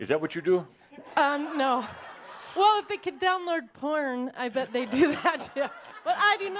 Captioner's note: laughter; more laughter